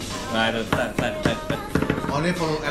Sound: imitating song beat

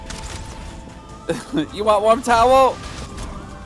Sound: laughs

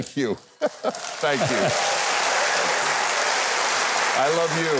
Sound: audience applauding

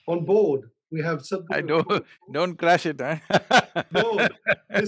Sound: laughs

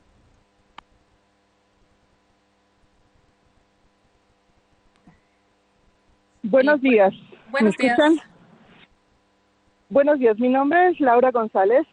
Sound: speaking spanish

